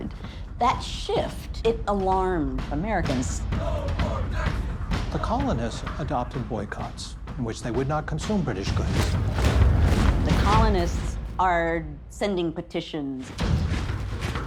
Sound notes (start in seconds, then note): 3.1 chanting